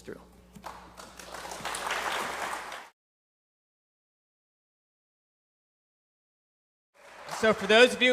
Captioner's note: applause